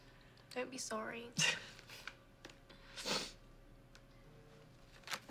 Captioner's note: both chuckle